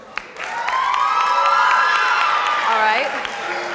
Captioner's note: audience cheers and applauds